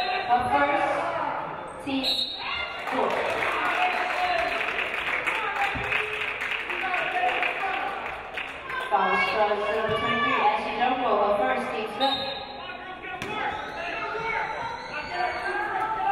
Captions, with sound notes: (referee blows whistle) First, teams fourth. (audience applauding) Foul, number 23, Ashley Drumgole. First, teams fifth. (referee blows whistle)